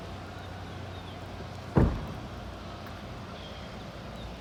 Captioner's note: birds chirping